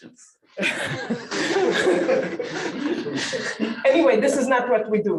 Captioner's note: laughter